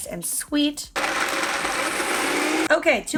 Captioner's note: sharp grinding